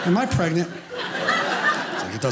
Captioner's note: audience laughing